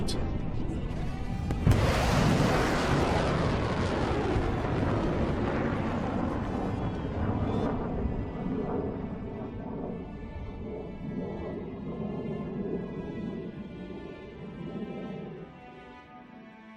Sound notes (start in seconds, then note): 1.4 rocket launch; 9.6 rocket launch fade out